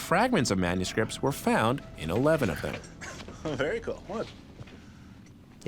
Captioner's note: giggles